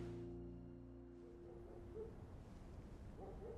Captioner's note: dog barking